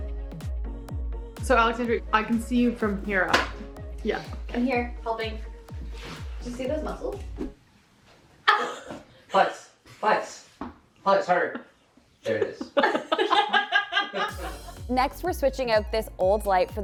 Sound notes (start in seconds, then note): 9.1 laughs; 13.8 team laughing